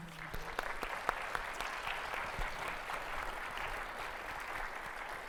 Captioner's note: audience applauding